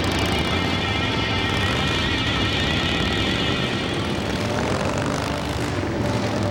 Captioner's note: dramatic music; motorbikes roaring